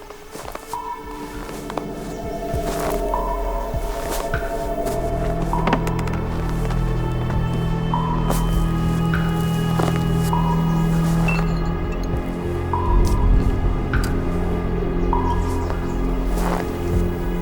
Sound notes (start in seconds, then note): 11.2 glass clinking